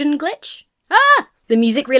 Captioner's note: shouts